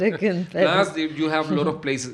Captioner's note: laughs